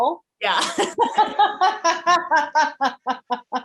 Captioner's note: all laughing